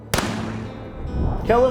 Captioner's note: gun bang